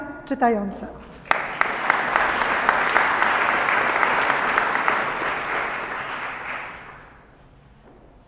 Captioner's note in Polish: oklaski